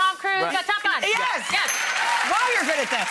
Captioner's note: bell dings